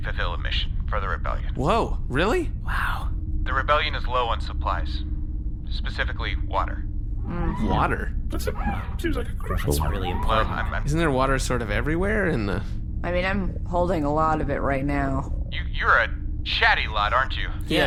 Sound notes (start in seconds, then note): 3.0 whispering; 10.0 quietly